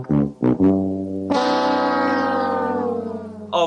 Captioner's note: Sad Price is Right Horn